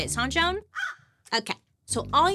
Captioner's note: crows cawing